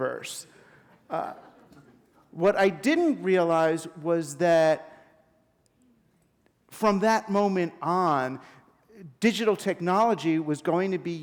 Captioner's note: chuckle